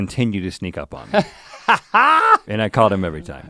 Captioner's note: Link laughs